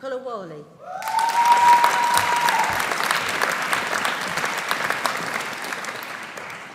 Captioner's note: audience cheering; audience applauding